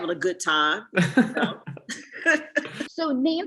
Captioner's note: both laughing